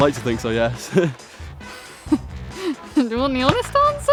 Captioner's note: chuckles